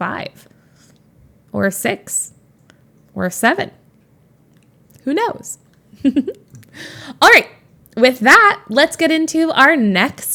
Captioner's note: Emma giggles